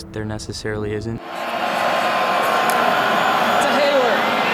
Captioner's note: crowd cheers